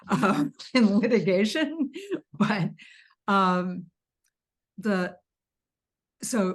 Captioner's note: everyone laughing